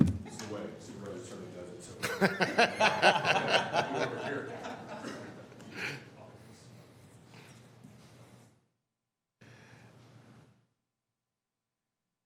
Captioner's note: laughter